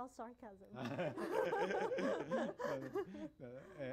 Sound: laughter

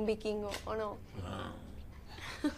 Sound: growls; laughs

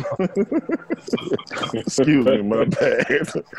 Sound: laughter

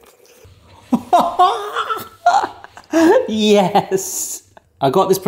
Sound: laughing

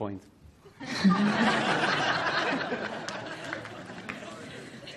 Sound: audience laughs

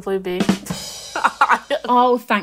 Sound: comical rimshot; laughing

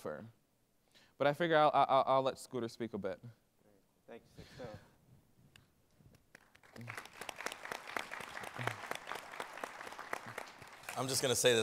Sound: applause

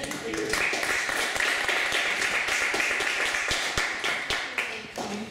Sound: applause

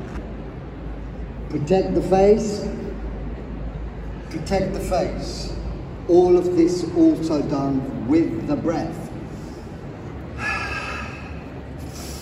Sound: exhales

